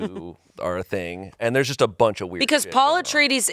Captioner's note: faintly speaking